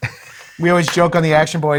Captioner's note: laughs